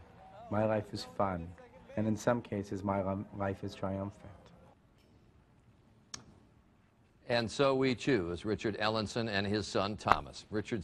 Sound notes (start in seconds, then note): 7.3 voiceover